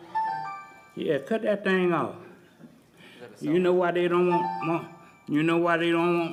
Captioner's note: beeping